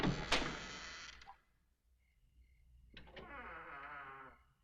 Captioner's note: door creaking